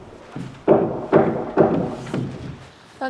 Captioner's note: rumbling